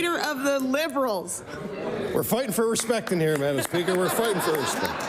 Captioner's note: laughter